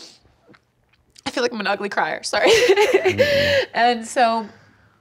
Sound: chuckles

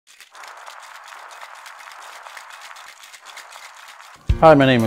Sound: cocktail shaking

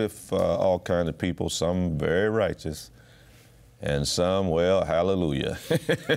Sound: laughs

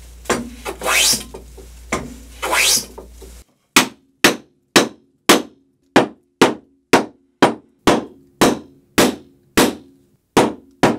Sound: hammer noises

